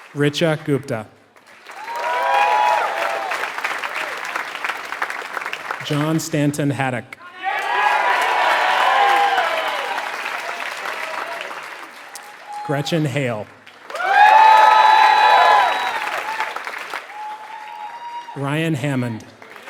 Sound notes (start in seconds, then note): 3.1 applause